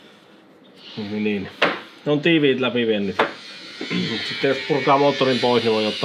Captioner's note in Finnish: rykäisee